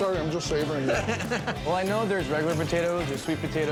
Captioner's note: laughs